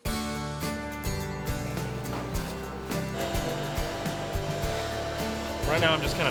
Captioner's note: upbeat strumming music; loud vacuuming